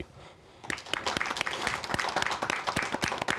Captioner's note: applause